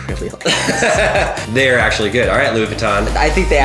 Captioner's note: laughs